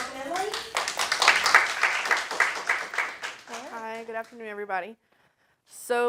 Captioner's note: applause